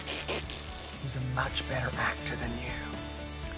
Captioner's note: blows raspberry